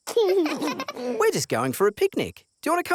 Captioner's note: both laugh